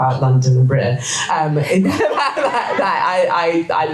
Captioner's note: audience laughter